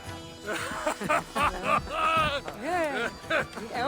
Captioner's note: laughs